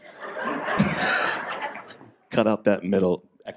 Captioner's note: audience laughs